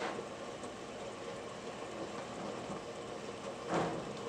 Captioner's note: mixer whirring